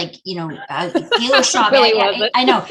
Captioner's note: laughing